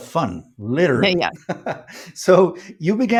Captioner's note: laughs